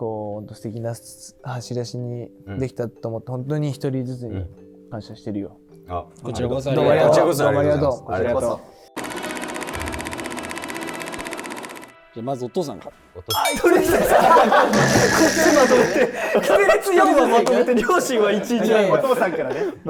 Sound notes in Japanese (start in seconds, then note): 14.9 一同：笑い